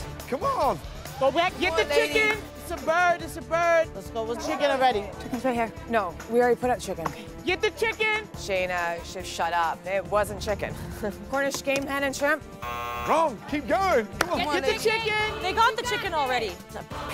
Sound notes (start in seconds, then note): 10.7 laughing; 12.6 buzz